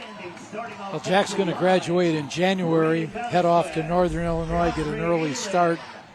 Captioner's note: applause